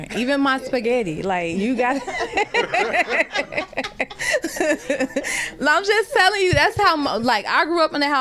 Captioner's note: laughter